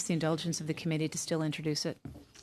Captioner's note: speaking French